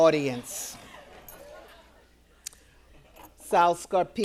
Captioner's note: audience laughing